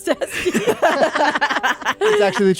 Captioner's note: all laughing